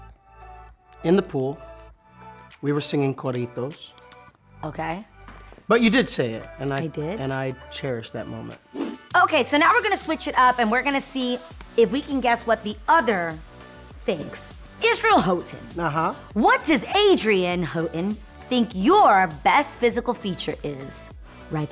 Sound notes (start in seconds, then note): 2.8 speaks in foreign language